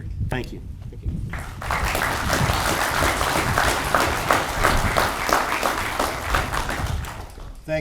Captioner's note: audience applauds